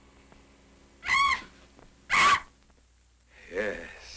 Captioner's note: bat shrieking